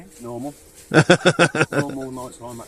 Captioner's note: laughs